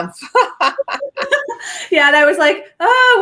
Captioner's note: both laugh